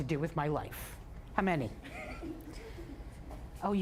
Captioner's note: audience chuckling